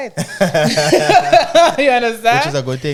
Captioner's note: laughing